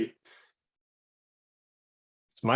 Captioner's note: silence